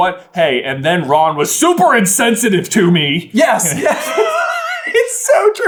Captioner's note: cracks up laughing